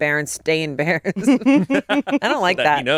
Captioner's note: all chuckle